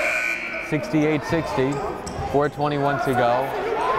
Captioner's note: buzzer blaring